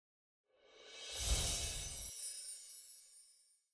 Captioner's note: chimes tinkling